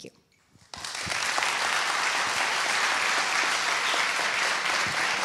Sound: applause

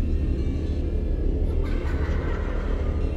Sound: children giggling

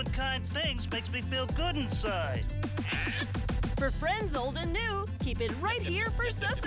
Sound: hoots

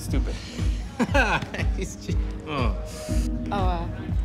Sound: laughs

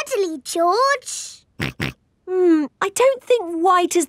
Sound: snorts

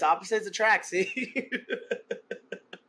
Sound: laughter

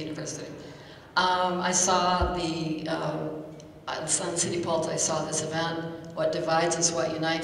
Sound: speaking quickly

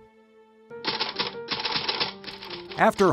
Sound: typewriter clacking

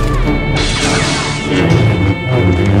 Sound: somber music; saber buzzing; action music

